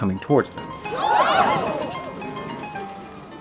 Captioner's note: gasps